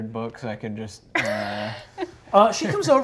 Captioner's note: laughing